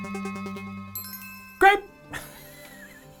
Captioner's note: light chime